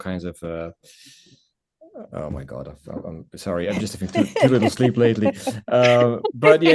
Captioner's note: laughter